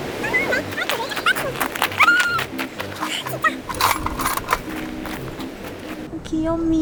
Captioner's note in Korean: 분노의 돌고래 소리